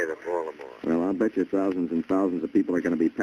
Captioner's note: on phone